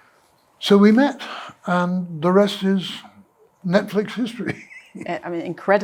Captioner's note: laughs